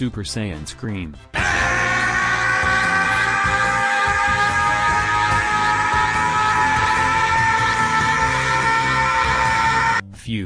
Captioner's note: long, prolonged scream